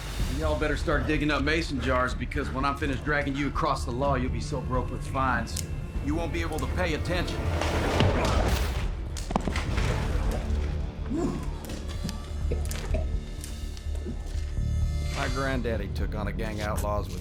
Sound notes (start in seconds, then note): 5.6 knife clicks; 7.5 hitting; 11.1 man coughing